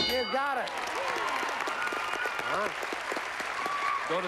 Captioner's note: cheers and applause